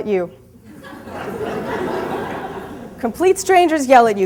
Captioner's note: audience laughs